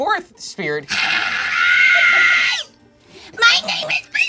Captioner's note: screeches